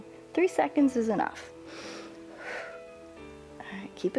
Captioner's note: inhales and exhales